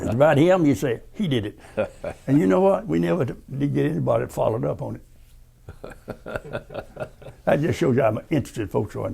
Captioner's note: laughter